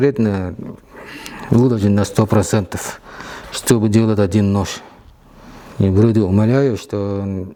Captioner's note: snorts